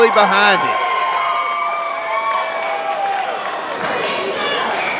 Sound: crowd cheering

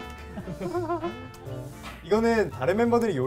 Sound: laughs

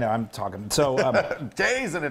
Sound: laugh

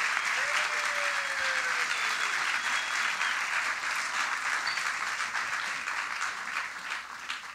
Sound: audience: Applause and cheers

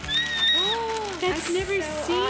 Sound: squealing

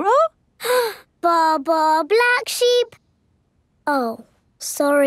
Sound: inhales

